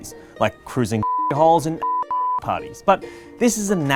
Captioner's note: beep